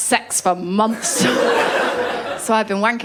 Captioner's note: laughter